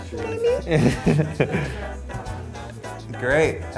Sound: laughs

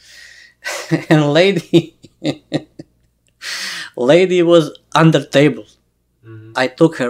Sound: laughs

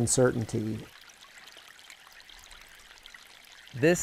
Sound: water gently trickling

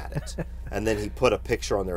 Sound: laughs

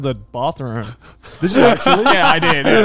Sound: everyone laughs

